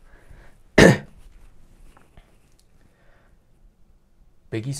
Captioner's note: sigh, clears throat